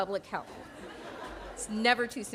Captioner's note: audience laughing